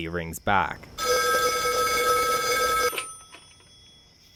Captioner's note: phone rings